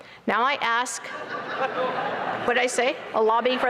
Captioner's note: laughter